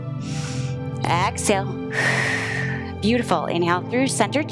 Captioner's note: inhales; exhales